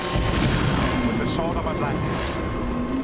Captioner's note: metallic schwing